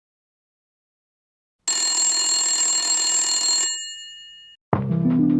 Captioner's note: ringing alarm; lofi music